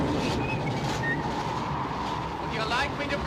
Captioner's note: Harry whistles